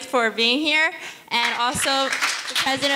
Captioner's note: audience applauding